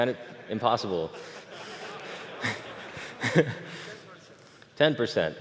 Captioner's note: 청중 웃음